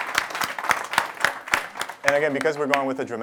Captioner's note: applause